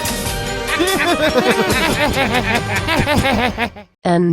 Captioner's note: laughs